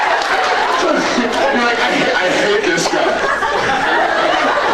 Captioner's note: laughs, cheers; laughing, inaudible; laughs